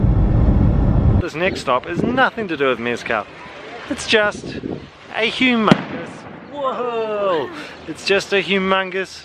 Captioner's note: bang